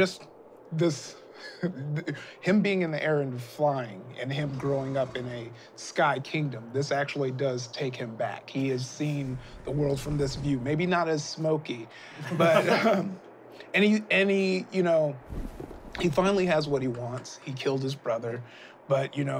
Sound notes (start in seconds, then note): 12.0 laughing